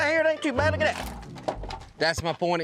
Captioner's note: wood crumbling